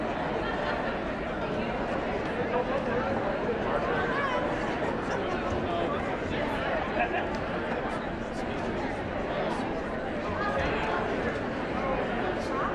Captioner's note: indistinct chatter